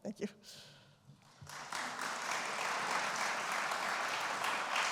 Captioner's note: applause